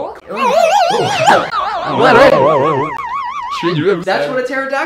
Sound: warbling, overlapping voices

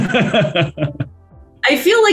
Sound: laughs

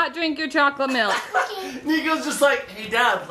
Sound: laughs

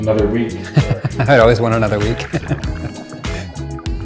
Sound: laughing

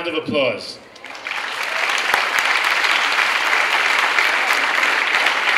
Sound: clapping and cheering

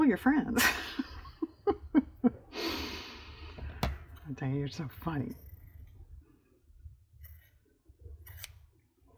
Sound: laughs

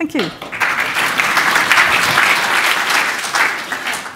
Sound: applause

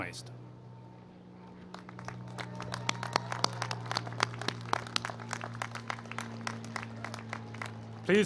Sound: applause

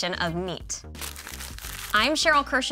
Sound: logos popping

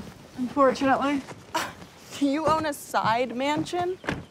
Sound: scoffs

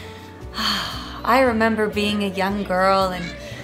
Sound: sighs

